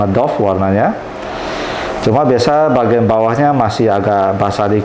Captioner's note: inhale